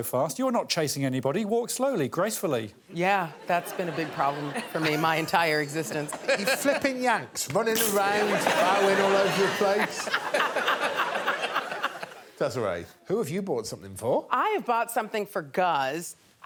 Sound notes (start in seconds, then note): 3.2 audience laughing; 11.1 all laughing